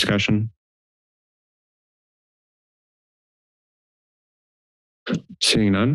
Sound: silence

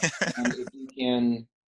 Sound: laughs

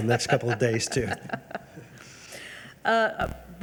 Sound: chuckling

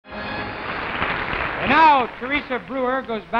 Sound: applause

